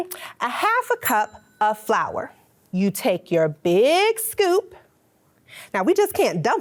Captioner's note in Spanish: tintinea la campana